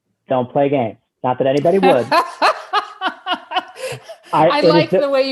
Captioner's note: laughing